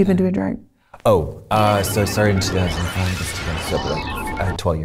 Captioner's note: machines beeping, whirring